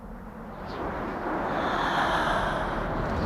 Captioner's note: haaaa